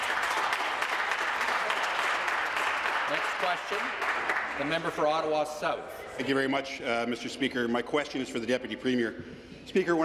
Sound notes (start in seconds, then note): 1.8 some Applause